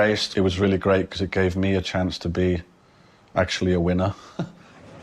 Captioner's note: chuckles